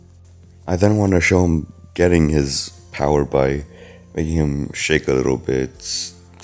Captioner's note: breath